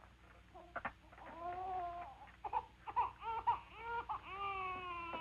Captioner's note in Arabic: بكاء الطفل